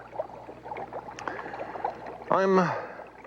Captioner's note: liquid gurgles